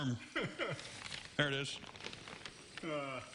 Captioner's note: laughter